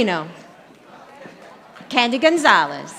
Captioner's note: audience applauding